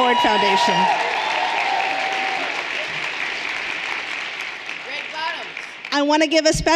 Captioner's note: everyone cheering and applauding